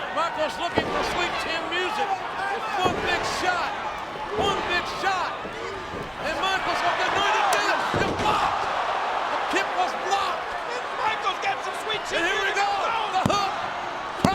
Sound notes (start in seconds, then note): 7.8 kick thuds; 8.1 bodies thud